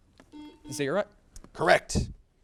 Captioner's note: buzzer beeps